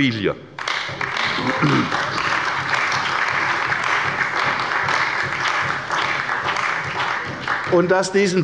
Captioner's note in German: Beifall bei der CDU und dem BÜNDNIS 90/DIE GRÜNEN